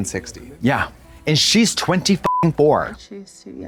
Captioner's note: beep